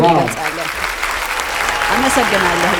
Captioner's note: applause